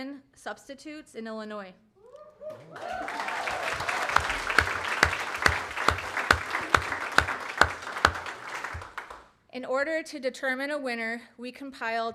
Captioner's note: applause